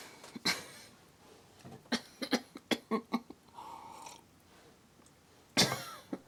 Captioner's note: Beth coughing; Beth sipping